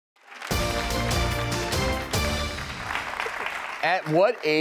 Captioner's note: applause; upbeat music